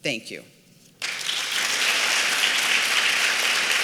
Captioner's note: applause